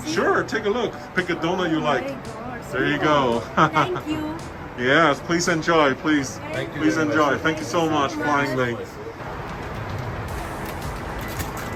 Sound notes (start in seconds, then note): 3.4 chuckles